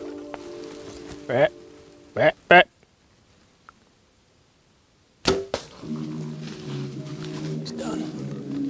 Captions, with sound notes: Meh, meh, meh. (bow twangs) (soft electronic music) He's done.